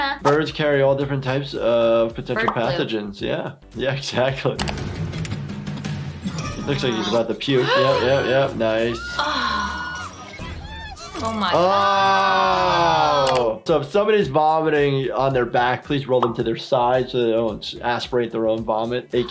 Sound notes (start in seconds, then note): 7.6 gasps; 8.8 flight attendant screaming